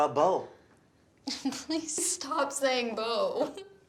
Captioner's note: laughs